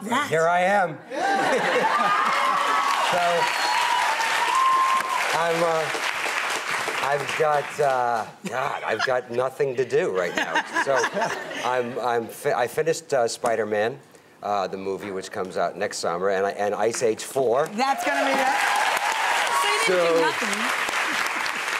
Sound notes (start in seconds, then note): 1.2 laughing; 1.2 audience cheering; 17.8 audience cheering